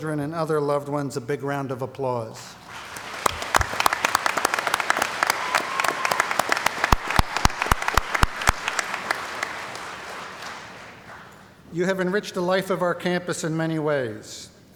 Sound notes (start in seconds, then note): 2.6 applause